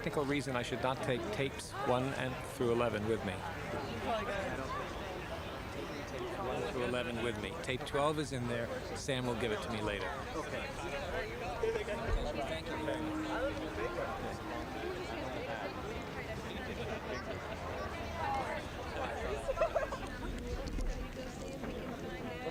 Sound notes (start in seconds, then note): 4.0 indistinct chatter; 12.3 indistinct chatter